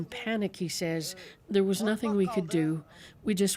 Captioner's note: speaking alternate language